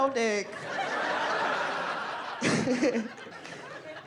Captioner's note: audience laughing